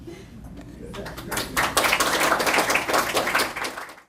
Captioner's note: applause